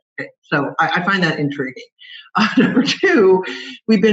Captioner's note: laughs